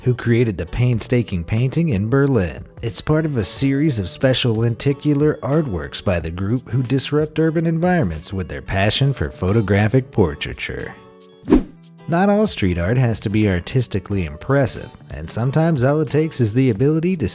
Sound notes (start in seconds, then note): 11.4 air whooshing